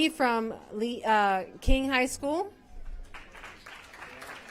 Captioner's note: applause